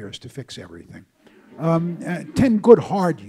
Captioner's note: audience laughs